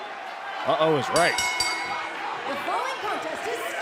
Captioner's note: bell ringing